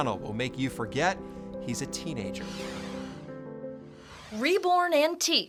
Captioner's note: gentle music; logo whooshes